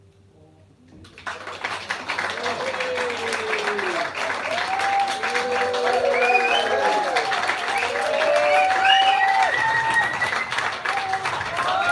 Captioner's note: applause